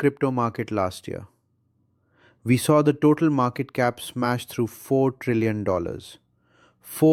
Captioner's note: excited